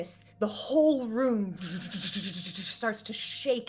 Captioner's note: imitating rumbling